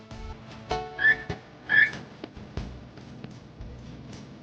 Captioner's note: bird chirps